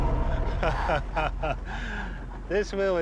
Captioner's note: laughs